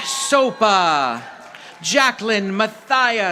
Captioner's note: audience applauding